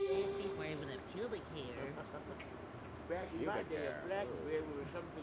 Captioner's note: tense music; chatter